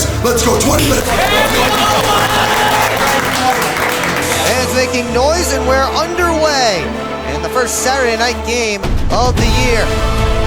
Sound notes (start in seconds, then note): 0.7 clapping; 5.2 broadcast commentary; 10.2 dramatic music